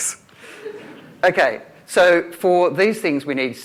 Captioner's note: laughter